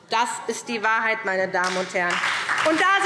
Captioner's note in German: Beifall SPD, Freie Demokraten und DIE LINKE